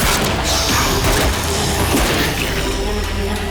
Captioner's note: guns blasting